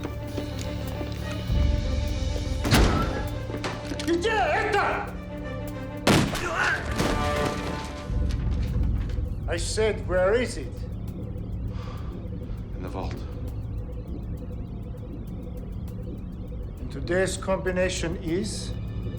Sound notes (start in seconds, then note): 3.8 soldier shouting in Russian; 9.2 in English; 11.7 sighs